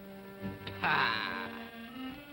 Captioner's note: scoffs